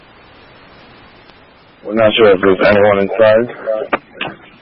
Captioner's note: radio traffic